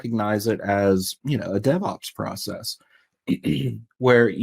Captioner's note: clears throat